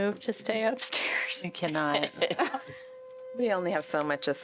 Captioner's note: laughter